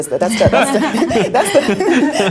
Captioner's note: laughing